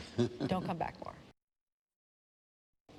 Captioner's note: laughter